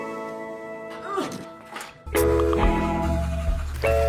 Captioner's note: grunts